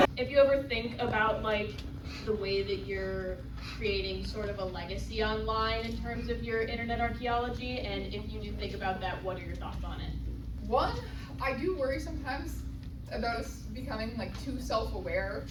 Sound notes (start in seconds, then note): none